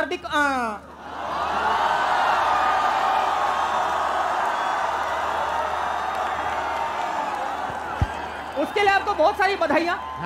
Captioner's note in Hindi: चियरिंग